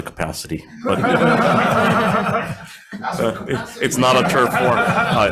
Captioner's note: all laughing